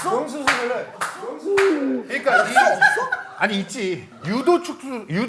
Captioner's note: laughing too hard